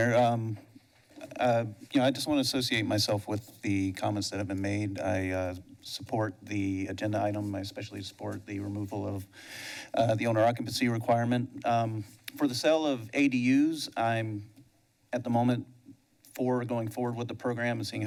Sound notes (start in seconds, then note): none